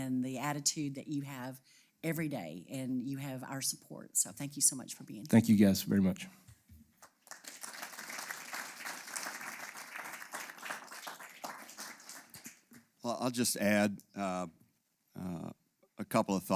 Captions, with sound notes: the attitude that you have every day and you have our support. So thank you so much for being here. >> Thank you guys very much. >> [APPLAUSE] >> Well, I'll just add a couple of